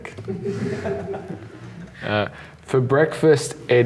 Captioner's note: laughs